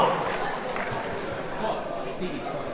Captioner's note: clapping